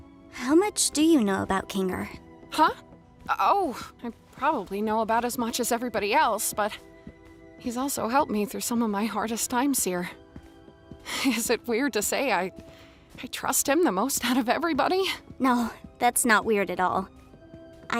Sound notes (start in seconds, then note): none